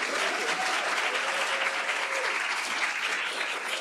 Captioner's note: applause